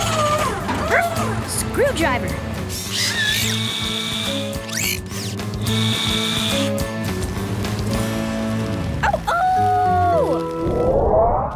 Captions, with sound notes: Ruff, screwdriver! [drill running] [howling]